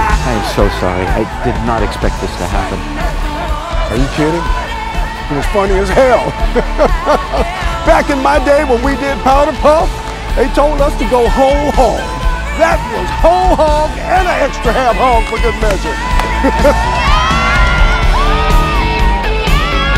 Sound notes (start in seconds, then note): 6.2 laughs